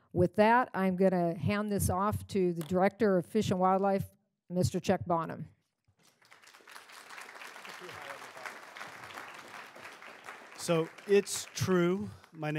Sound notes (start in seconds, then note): 6.0 applause